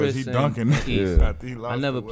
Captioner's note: laughs